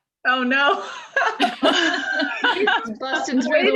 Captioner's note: laughing